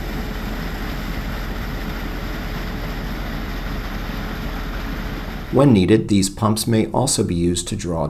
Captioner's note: water gushing